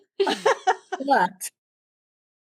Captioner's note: laughing